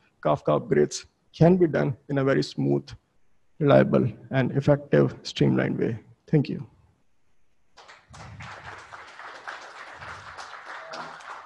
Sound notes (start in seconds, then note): 7.7 audience claps